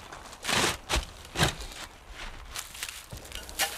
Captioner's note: crisp rustling of the reed